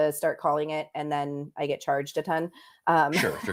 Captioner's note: laughter